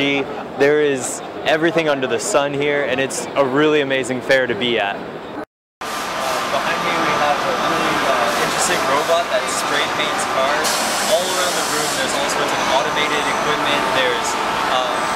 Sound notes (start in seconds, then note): 5.6 machines whirring